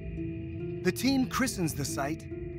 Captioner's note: none